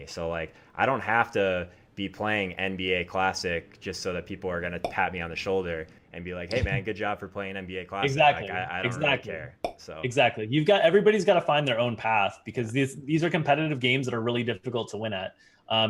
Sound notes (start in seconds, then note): 6.5 logo popping; 8.0 logo popping